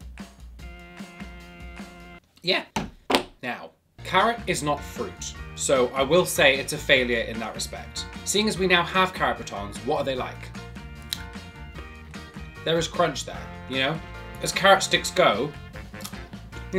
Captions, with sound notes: Yeah. (hands slap the table) Now, carrot is not fruit. So, I will say it's a failure in that respect. Seeing as we now have carrot batons, what are they like? (carrot stick snaps) There was crunched there, you know? As carrot sticks go, (carrot stick crunches)